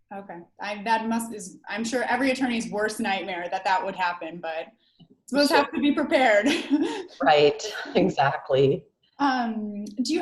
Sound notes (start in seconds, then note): 6.5 laughs